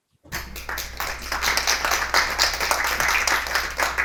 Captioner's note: applause